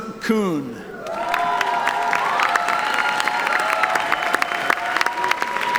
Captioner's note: audience applauding